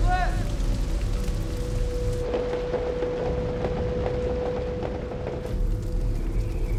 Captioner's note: rain pattering; wind whistling